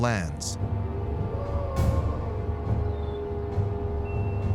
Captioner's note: wolf howling in distance; ominous music